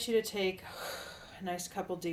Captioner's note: sighing